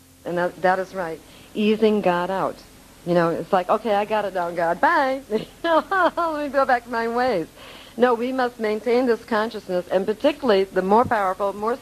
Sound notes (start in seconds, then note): 5.3 laughing